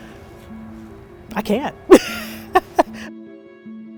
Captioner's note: laughs